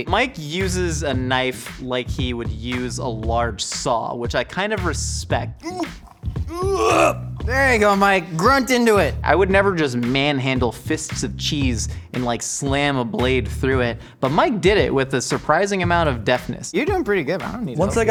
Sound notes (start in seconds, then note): 6.4 grunts